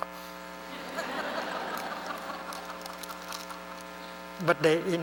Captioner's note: laughter